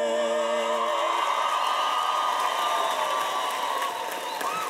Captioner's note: cheers and applause